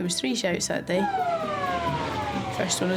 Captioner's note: siren blares